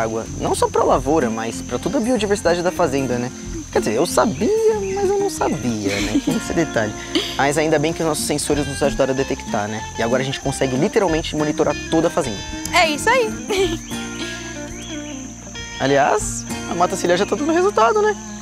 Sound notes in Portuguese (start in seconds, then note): 13.6 Pássaros